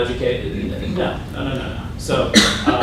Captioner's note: cough